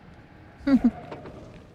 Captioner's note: laughs